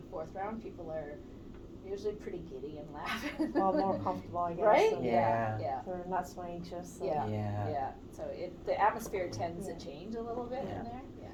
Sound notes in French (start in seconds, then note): 3.0 Rires